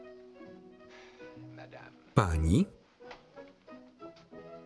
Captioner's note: sigh